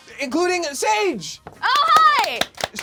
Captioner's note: loud clapping